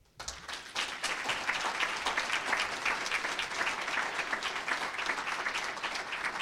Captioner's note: applause